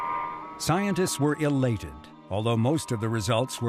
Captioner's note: Mariner signals beeping